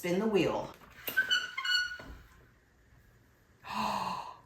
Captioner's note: wheel creaking